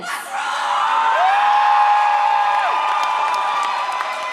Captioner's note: audience cheers